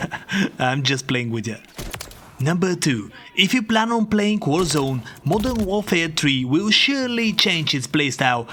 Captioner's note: chuckle